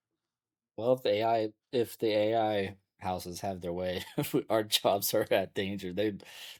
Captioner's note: laughs